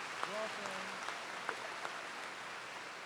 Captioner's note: applause